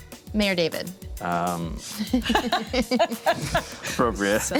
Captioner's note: everyone chuckles